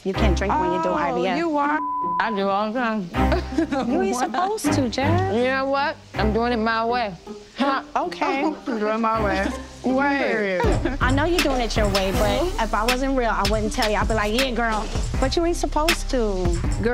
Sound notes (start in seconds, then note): 1.7 beep